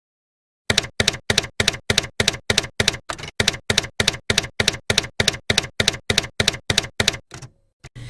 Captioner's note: typewriter keys clacking